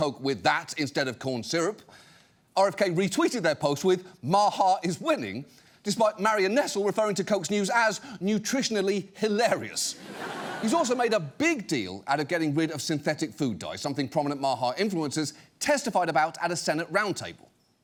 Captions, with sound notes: with that instead of corn syrup, RFK retweeted their post with, "MAHA is winning," despite Marion Nestle referring to Coke's news -as "nutritionally hilarious." -(STUDIO AUDIENCE LAUGHS) He's also made a big deal out of getting rid of synthetic food dyes, something prominent MAHA influencers testified about at a Senate roundtable.